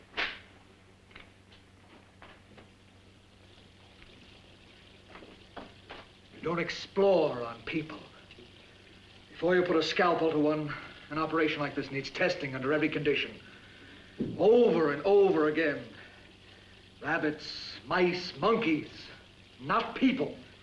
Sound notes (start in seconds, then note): 0.1 glove smacks; 2.9 running water